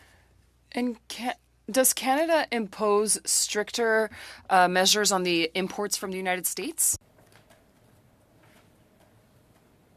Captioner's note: speaking French